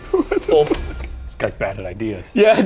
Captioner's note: laughs